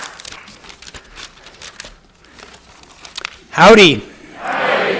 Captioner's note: paper rustling